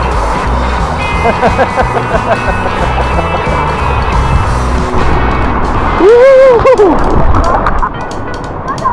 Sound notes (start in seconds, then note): 1.2 laugh